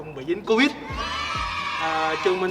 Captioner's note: cheering